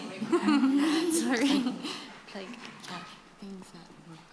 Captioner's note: laughter